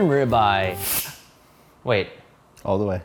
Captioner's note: steam hissing